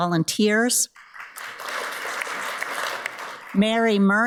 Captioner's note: audience applauds